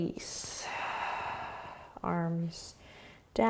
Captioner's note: exhaling